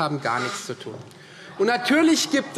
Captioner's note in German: Zuruf